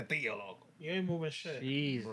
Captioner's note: non-english Speech